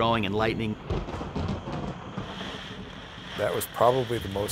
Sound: rain pattering; thunder crashing

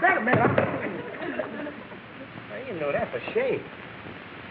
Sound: audience laughing

